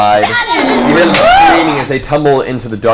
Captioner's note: all cheer